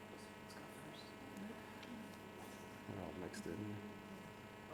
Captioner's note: murmuring